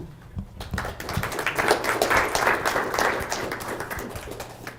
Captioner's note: audience applauding